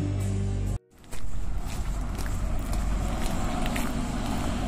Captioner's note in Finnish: askelten rahinaa